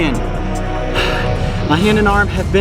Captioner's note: exhales